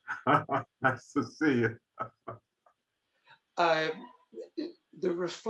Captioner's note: laughing